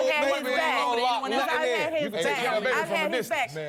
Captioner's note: guests chatter heatedly